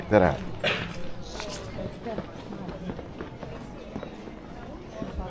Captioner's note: people chattering